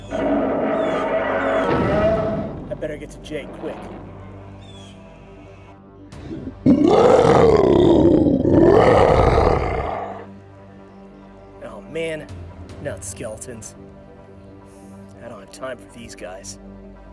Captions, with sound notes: (ROARS) I better get to Jay, quick! (GROWLS) Oh, man. Skeletons. I don't have time for these guys.